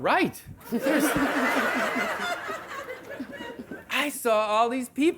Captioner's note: audience laughing